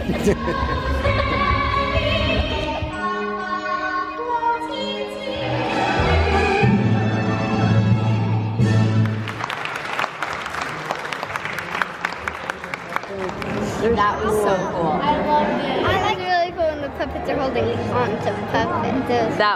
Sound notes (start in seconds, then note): 5.5 dramatic music; 9.0 audience applauds